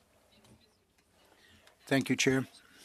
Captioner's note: speaking French